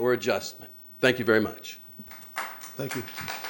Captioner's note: applause